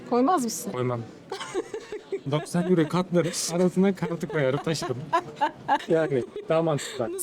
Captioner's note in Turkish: kahkaha